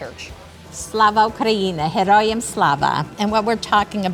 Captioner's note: speaking in Ukrainian